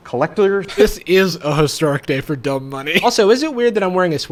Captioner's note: laughs